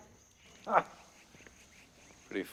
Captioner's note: laughs